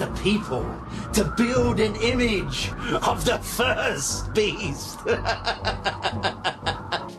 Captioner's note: laughs